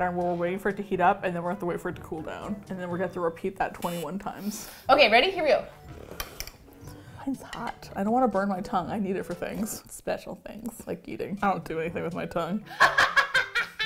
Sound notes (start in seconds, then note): 4.2 buzzer; 12.7 laughs hysterically